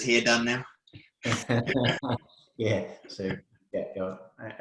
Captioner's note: both laughing